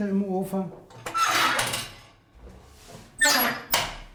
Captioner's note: creaking